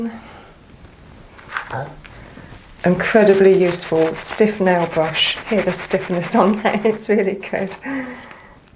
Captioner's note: scrubbing sounds